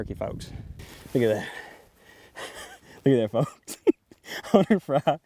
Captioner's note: laughs